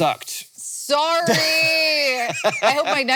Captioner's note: Hank laughing